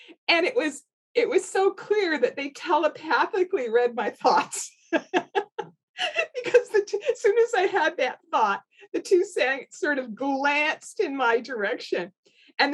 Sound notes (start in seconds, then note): 5.0 laughs